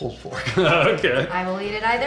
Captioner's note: laughs